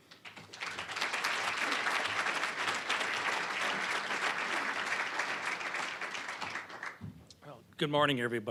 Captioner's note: applause